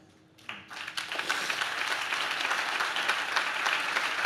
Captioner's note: audience claps